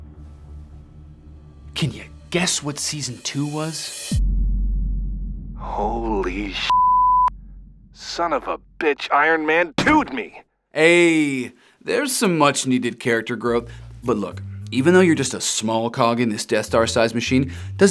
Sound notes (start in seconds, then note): 4.2 tense music; 6.6 beep